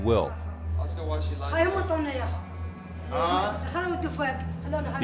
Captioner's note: woman speaking in Arabic